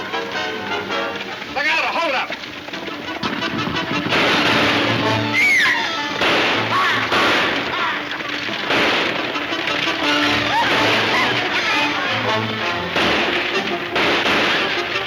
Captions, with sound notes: - Look out, a hold-up! (gunshots banging) (Mary screaming) (gunshots banging) (gunshots banging)